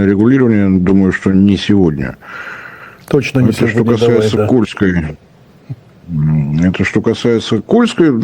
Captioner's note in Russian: откашливается